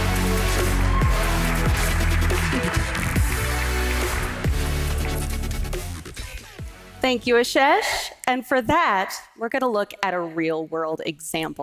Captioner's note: applause